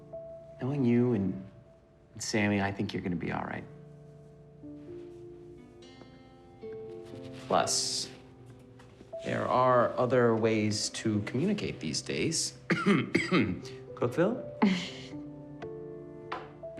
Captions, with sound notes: knowing you and Sammy, I think you're gonna be alright. Plus, there are other ways to stay communicate these days. (clears throat) CookVille! (chuckles)